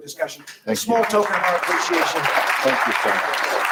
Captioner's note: round of applause